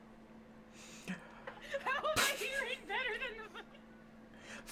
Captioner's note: laughing